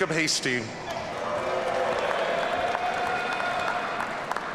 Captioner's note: audience cheering